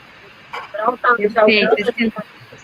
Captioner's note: multiple voices